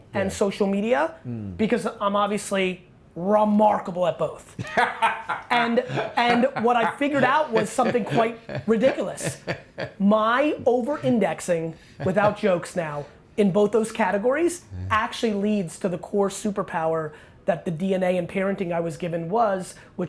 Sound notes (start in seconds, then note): 4.5 laughing